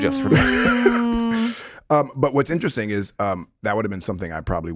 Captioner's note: chuckles